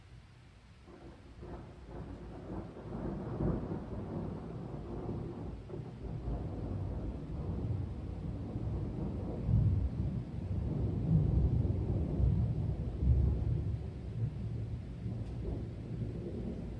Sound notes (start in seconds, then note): 4.1 loud thunder clap